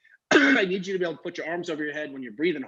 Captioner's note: coughs